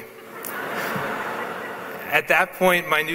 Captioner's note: laughs